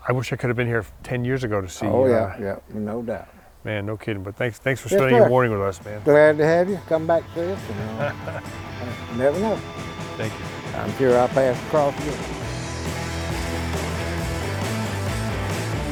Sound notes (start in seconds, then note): 7.2 laughing; 12.8 upbeat rock music